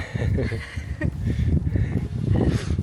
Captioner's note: laughs